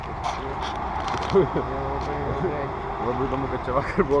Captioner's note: ironic laughter